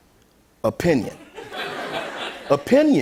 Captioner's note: laughter